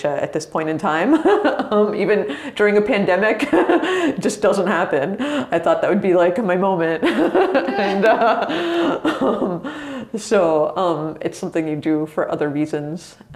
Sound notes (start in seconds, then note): 3.2 laughs; 7.1 both laugh